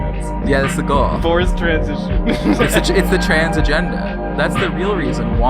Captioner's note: laughs